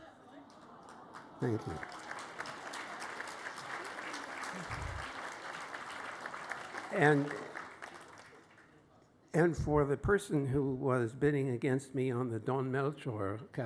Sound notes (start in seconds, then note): 0.0 applause